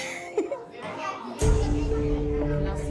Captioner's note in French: rire